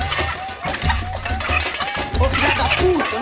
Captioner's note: chicken clucking